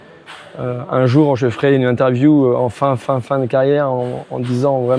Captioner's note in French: grognement